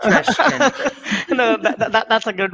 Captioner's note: laughing